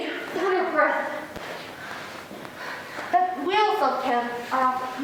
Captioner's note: exhaling